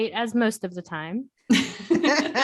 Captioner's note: laughter